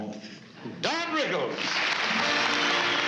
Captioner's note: applause